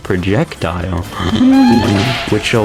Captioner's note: inhales Oxygen